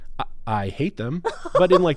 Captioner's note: laughs